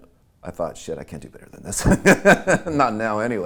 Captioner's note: laughing